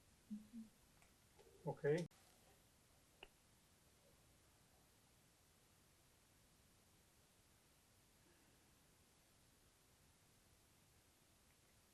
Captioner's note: pauses 10 seconds